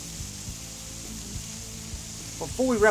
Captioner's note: sizzling